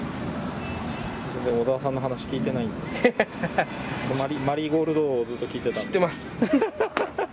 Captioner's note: laughs